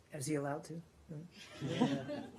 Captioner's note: laughter